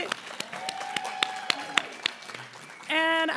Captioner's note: applause